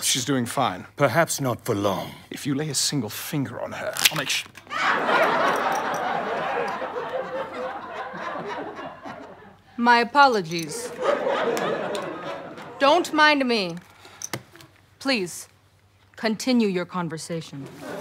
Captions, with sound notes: - She's doing fine. - Perhaps not for long. - If you lay a single finger on her, I'll make sure-- [audience laughter] - My apologies. Don't mind me. Please, continue your conversation.